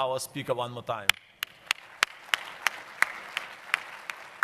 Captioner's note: applause